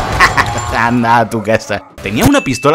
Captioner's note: laughs